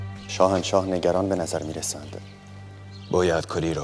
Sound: Mardonius speaking in foreign language; Xerxes speaking in foreign language

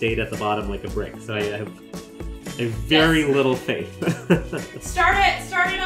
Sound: chuckles

